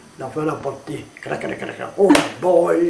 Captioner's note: clack clack clack clack